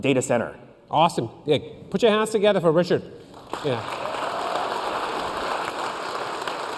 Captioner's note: applause